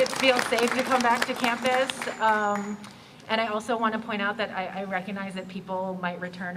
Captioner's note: cheers & Applause